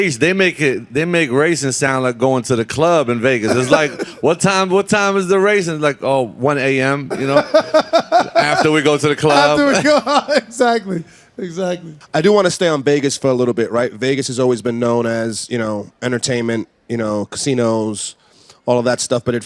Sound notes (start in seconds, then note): 7.0 laughing; 10.3 laughing